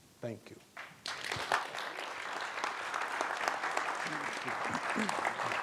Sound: audience applauding

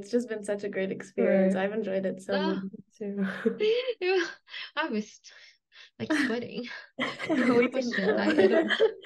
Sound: laughs

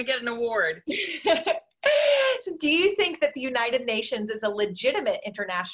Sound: laughs

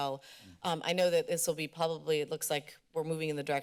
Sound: inhales

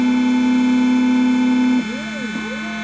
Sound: machine revving; machine whizzing

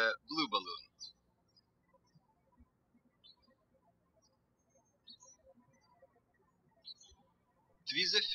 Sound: birds chirping

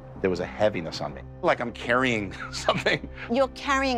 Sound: chuckles

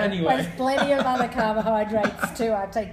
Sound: laughing

